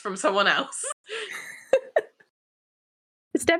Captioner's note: laughteer